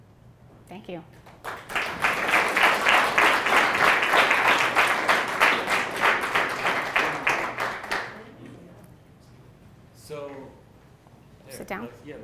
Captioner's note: applause